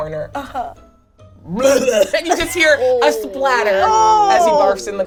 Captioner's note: imitates vomiting